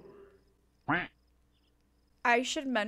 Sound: duck quacks

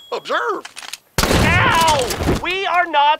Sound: shotgun firing

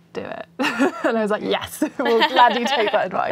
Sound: laughs

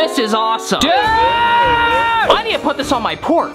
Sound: screams

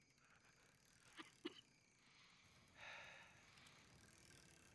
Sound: coughing

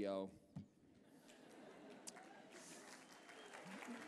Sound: applause

